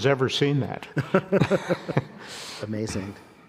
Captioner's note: both laughing